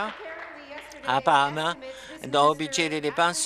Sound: applause

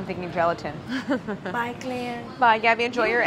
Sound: giggling

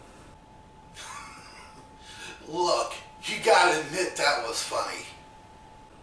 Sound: chuckling

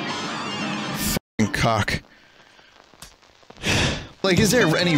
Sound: sigh

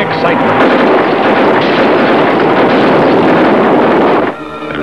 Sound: gunshots

